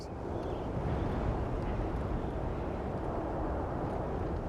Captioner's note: wind whooshing